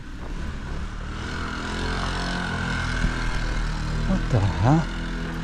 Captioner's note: motorcycle rumbling